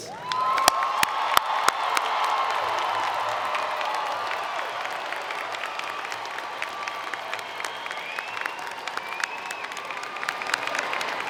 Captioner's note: applause